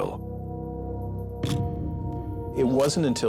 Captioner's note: camera shutter click